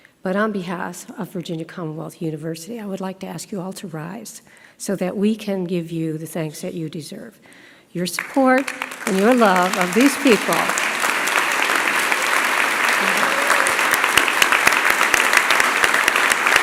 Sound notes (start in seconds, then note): 11.3 applause